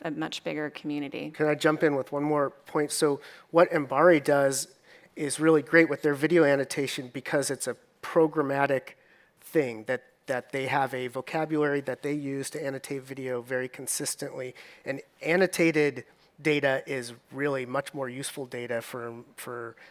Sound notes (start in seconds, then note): none